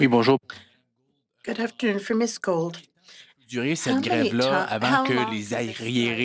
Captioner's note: speaking French